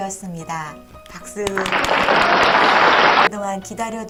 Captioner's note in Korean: 박수~